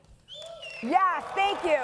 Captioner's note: audience member whistles